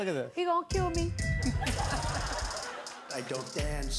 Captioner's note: laughter